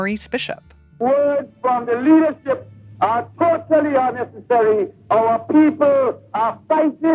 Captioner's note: soundbite of archived recording